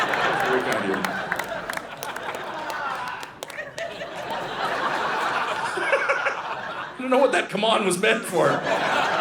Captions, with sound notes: That's very kind of you. (Audience laughing) (Audience member yells “come on!”) (Audience laughing) I don't know what that “Come on” was meant for.